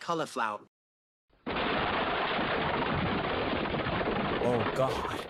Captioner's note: crash